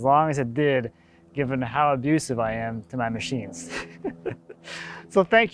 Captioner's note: laughing